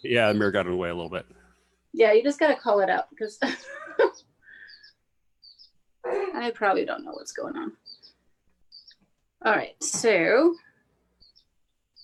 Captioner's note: laughs